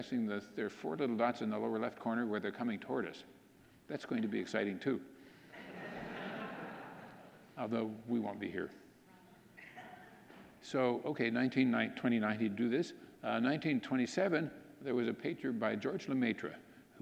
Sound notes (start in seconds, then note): 5.5 audience laughing